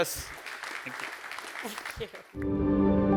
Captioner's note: audience applauding; resonant music